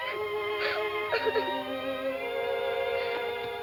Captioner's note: sobbing